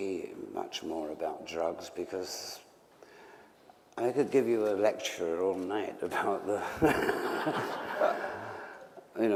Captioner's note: laughter